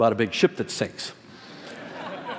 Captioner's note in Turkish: kahkahalar